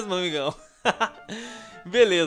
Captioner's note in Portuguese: risos